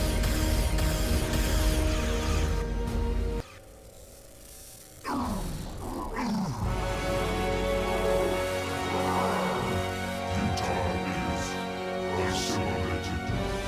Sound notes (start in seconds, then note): 5.0 growling